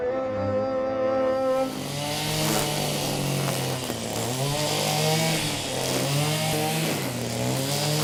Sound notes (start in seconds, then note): 1.6 machine whizzing